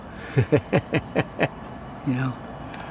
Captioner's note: interviewer laughs